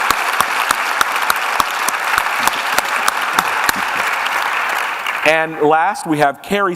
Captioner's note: applause